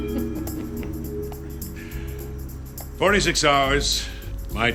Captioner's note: chuckles